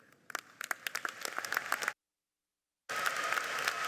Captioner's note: audience clapping